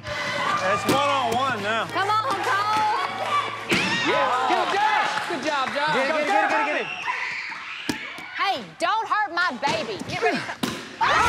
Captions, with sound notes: - It's one-on-one now. - Come on, Cole. [all shouting] - Good job. - Get him, get him. Get him, get him, get him. - Hey, don't hurt my baby.